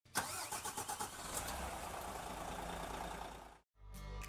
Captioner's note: engine revving